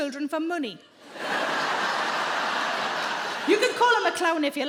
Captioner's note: audience laughing